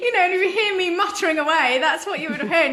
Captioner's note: she laughs